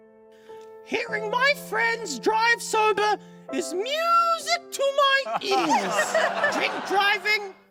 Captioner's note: laughter